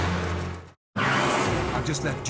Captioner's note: tires squealing